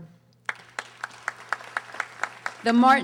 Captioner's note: audience applauding